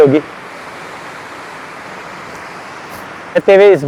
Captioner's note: water falling sound